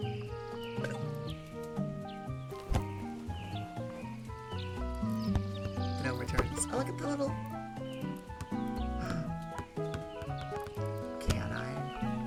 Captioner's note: gasps